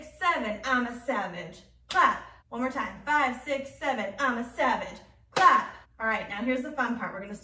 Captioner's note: clap